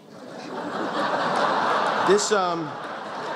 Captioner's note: laughter